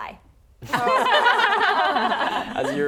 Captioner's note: laughing